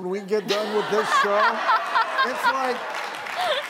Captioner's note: audience laughing; laughing